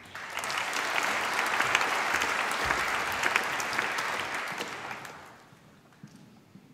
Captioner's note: applause